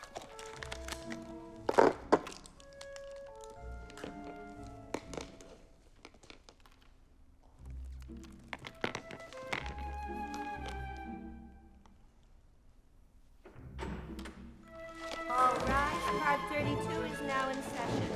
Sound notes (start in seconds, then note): 13.4 door opens